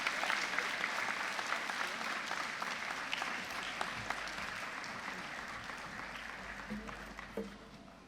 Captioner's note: applause, cheering; applause